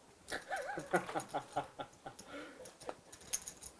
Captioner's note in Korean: 웃음